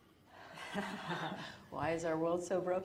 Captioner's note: laughs